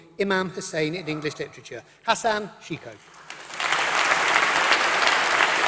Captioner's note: applause